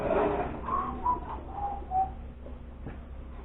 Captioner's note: whistling